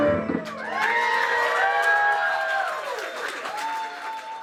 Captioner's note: crowd cheering